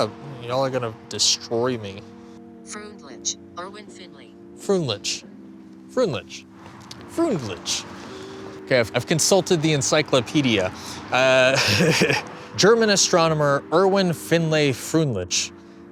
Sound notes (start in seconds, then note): 2.5 robotic voice; 11.5 chuckle